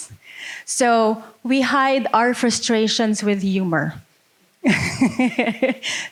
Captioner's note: laughing